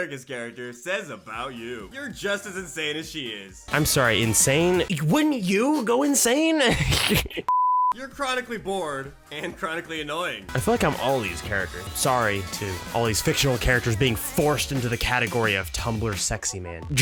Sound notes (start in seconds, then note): 6.4 laughs